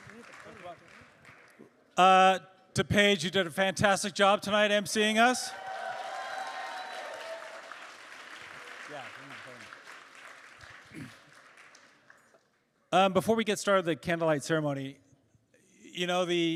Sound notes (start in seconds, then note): 0.0 applause; 11.0 applause